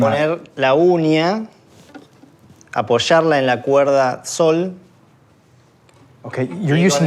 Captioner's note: speaks Spanish